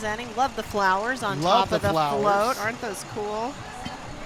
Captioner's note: water splashing